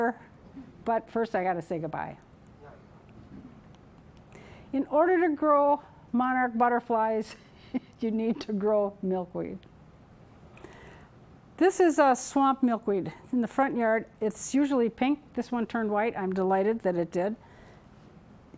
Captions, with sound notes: But first I got to say goodbye. In order to grow monarch butterflies [chuckling] you need to grow milkweed. This is swamp milkweed in the front yard. It's usually pink, this one turned white. I'm delighted that it did.